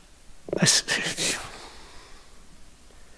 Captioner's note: grunts